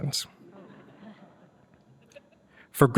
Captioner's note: laughter